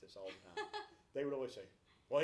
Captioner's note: laughs